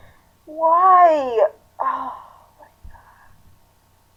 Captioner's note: whispering